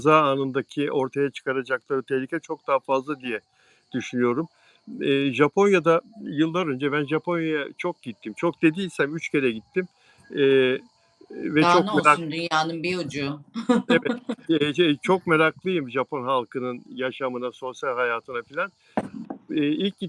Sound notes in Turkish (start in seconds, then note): 13.8 kahkaha